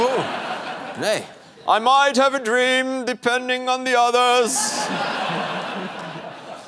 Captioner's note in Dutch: gelach